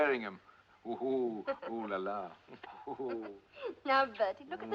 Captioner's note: Risos